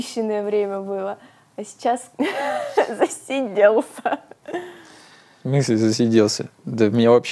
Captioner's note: laughs